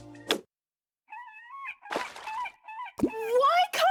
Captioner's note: gull cries